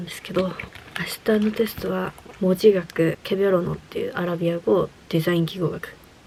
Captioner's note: Arabic